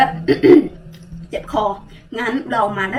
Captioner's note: clear throat